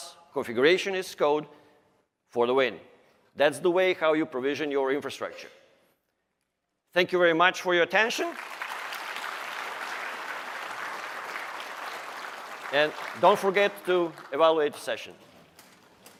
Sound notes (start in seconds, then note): 4.8 applause